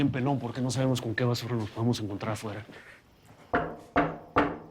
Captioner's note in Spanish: Toques en la puerta